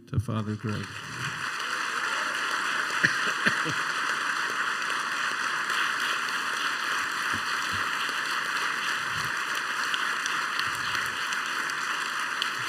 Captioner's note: applause